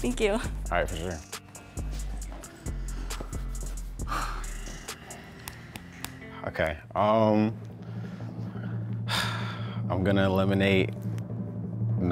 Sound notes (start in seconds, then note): 3.0 sighs